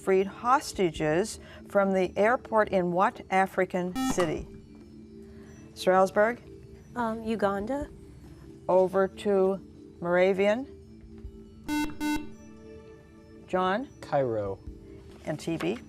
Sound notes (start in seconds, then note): 11.6 beeping